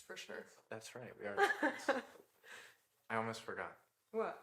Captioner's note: Jordyn laughing